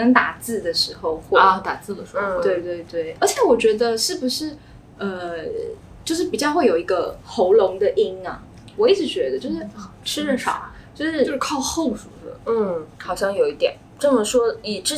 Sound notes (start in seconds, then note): 4.6 Chinese accent